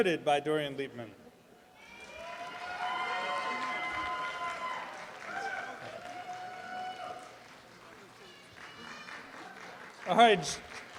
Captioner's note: audience applause